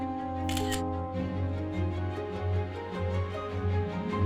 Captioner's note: camera snapping